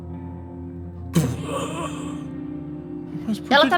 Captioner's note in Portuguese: Grunhidos